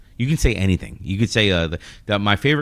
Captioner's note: uh